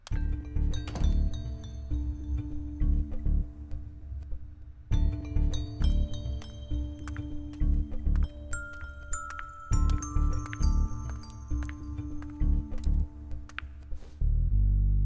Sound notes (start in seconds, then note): 0.8 Door closes